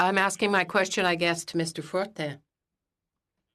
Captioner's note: speaking French